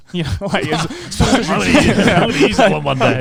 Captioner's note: all laughing loudly